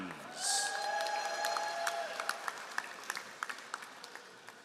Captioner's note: all applauding